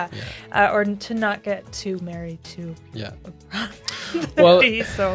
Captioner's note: chuckles